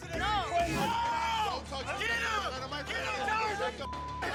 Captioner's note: yelling